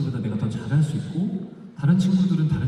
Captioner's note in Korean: none